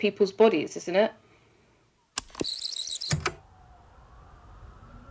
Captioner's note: the tape whirrs, fast forwarding